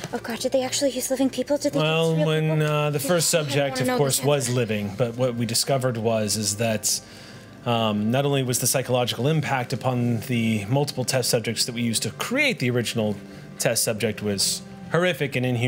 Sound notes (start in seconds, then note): none